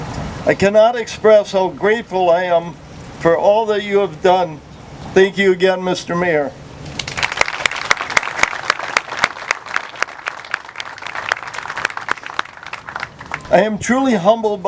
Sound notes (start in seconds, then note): 12.3 clapping